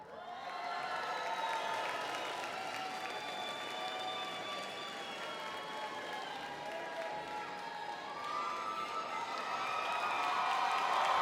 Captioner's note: applause